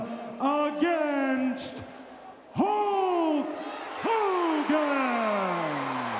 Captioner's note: crowd cheering